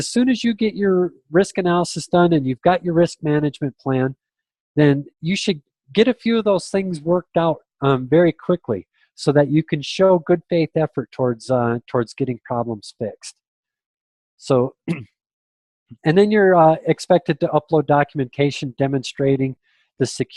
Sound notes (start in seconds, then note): 14.8 clears throat